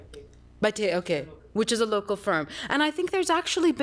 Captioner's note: non-english